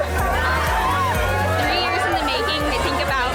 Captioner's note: upbeat music; women cheering; laughs